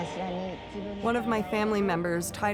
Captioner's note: speaking Japanese